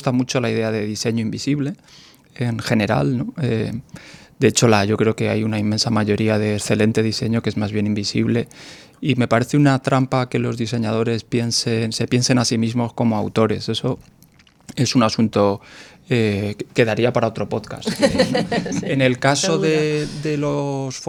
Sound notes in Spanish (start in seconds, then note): 17.8 risas